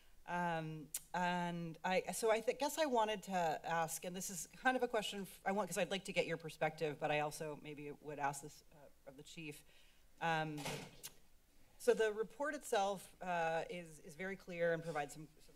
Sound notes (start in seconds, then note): 0.9 clicks tongue; 10.4 thud